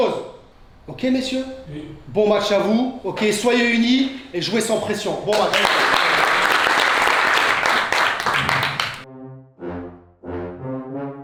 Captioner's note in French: applaudissements